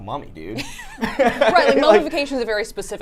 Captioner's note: laughing